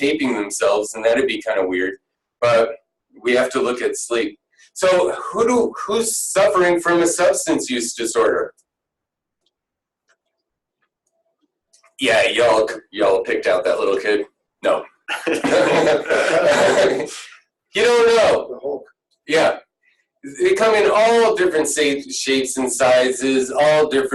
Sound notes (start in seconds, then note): 15.1 laughing